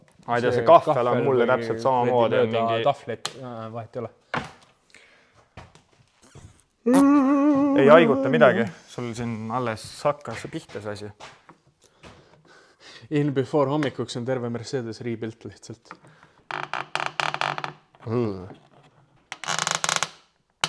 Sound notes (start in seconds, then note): 6.8 yawns